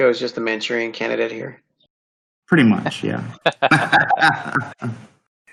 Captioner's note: laughing